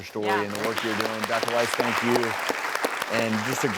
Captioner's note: clapping